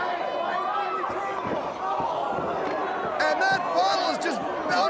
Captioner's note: crowd chatter